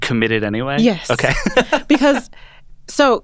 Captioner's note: laughs